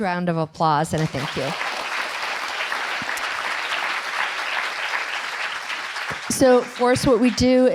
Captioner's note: applause and cheering